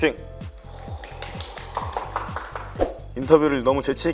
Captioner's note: clap clap clap clap clap clap clap